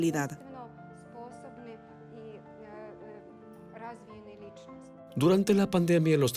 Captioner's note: Hablando idioma extranjero